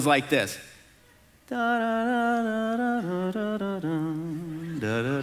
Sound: humming notes

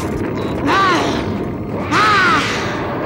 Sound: grunting

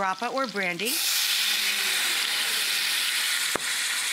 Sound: pan sizzling

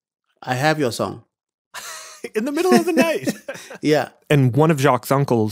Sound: laughs

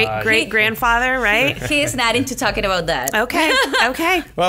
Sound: laughs

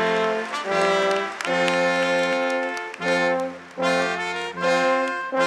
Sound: graduates applauding; royal instrumental music

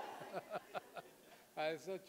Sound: audience cheering; laughing

